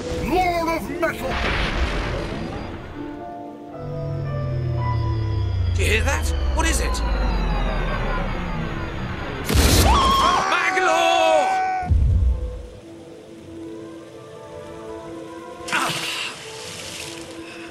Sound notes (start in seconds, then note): 3.7 sound of homing drooderball; 9.4 explosion and Magl scream; 15.6 splash